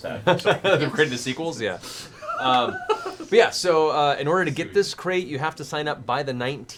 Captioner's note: laughter